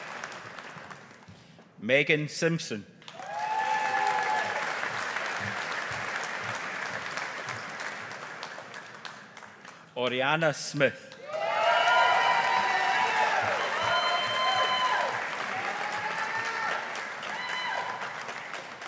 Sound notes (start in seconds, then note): 3.1 audience applauding; 11.1 audience applauding